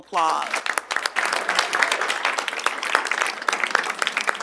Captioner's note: audience applauds